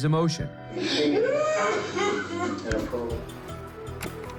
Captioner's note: sobbing loudly